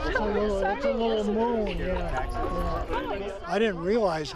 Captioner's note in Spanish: voces emocionadas